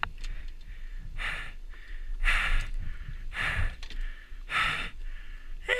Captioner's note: breathing heavily